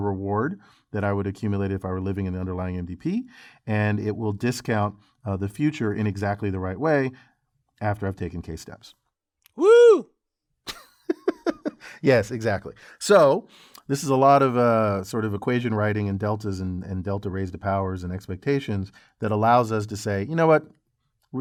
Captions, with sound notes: the reward that I would accumulate if I were living in the underlying MDP. And it will discount the future in exactly the right way after I've taken k steps. >> Whoo-hoo! >> [LAUGH] Yes, exactly. So this is a lot of sort of equation writing and deltas and delta raised to powers and expectations that allows us to say, you know what?